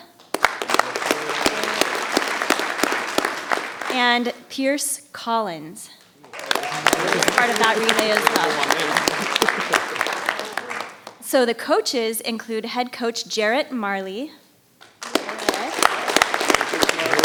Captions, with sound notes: (audience applauding) And Pierce Collins. (audience applauding) Is part of that relay (clapping drowns out speaker). So the coaches include Head Coach Jarrette Marley. (audience applauding) Hey, there.